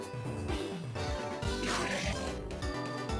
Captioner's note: enderman screams